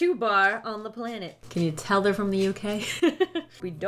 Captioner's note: laughs